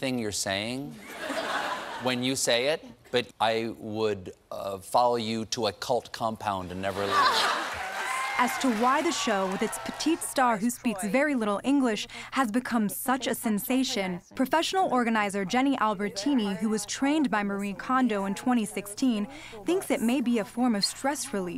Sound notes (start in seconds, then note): 6.9 laughter; 7.2 cheering and applause